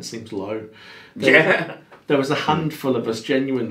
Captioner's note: laughs